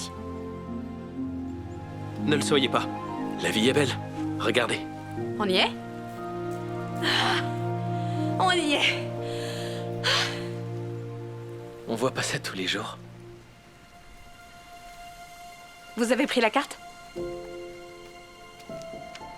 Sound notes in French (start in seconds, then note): 7.0 Becca soupire; 8.8 Becca soupire